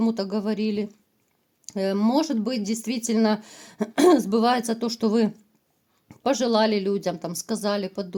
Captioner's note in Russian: откашливается